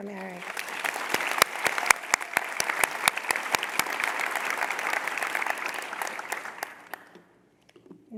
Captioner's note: applause